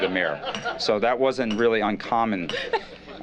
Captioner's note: laughter